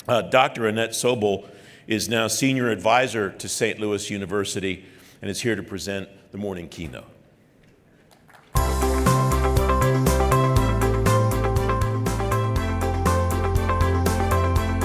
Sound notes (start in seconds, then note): 8.1 clapping; 8.5 light music